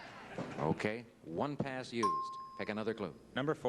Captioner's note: bell ding